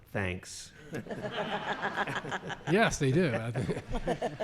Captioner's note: laughter